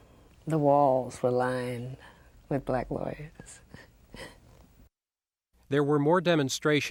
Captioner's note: laughs